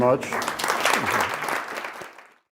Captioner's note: applause